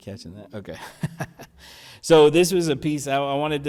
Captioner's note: laughs